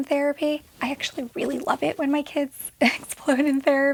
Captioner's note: chuckles